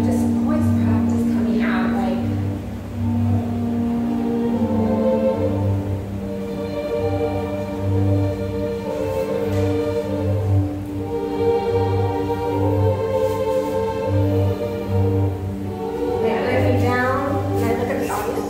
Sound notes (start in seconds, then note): none